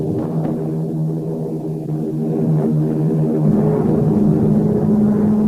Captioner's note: plane engines revving